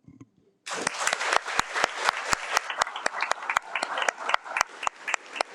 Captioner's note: audience applauding